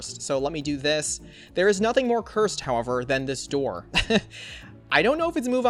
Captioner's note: laughs